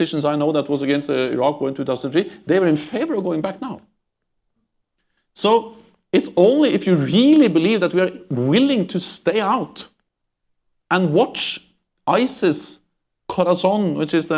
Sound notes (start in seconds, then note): none